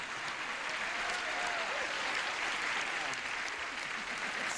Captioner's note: laughing, applause